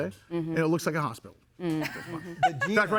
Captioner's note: laughing